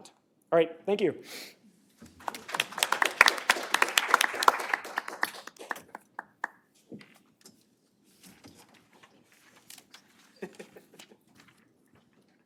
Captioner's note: applause